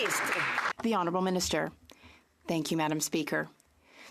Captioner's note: some Applause